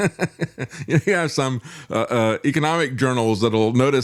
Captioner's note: laughs